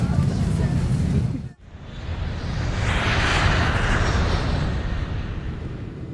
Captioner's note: airplane Takeoff Sound